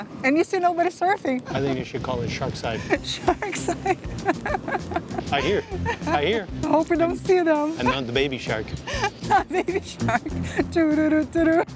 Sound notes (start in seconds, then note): 2.8 laughs